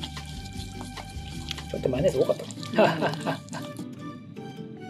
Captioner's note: laughs